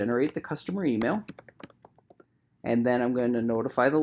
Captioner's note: keyboard clicking